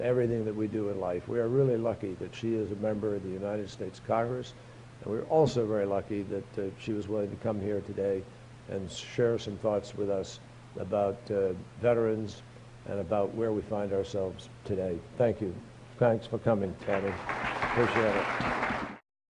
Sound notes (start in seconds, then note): 16.8 applause